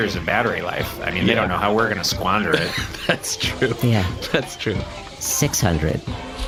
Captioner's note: laughs